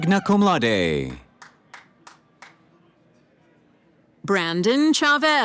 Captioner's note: cheering